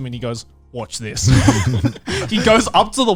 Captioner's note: laughs